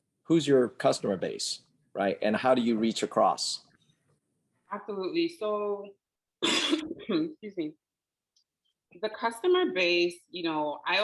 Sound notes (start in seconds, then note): 6.4 coughing